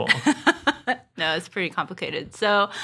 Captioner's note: laughs